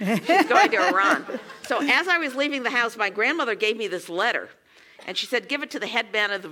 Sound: laugh

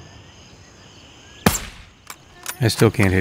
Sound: gunfire

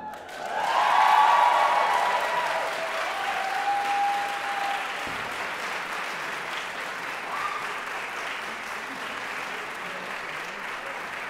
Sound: audience Cheers

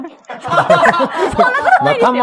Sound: laughs

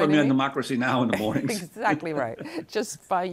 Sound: laughs

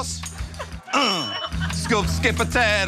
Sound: grunting; dinging

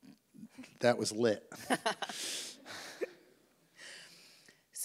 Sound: laughs

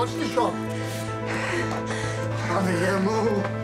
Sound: taking deep breaths

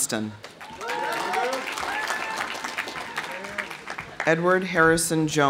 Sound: audience applauding; audience cheering

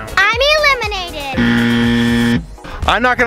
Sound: buzzer

